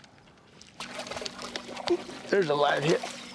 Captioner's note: splashing